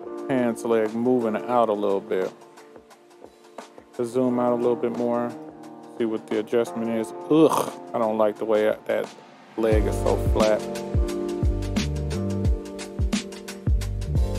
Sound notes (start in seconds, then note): 7.5 retches; 11.3 soft upbeat music